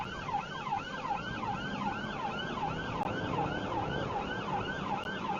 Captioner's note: car engine accelerating